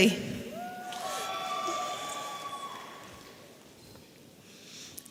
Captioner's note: audience cheering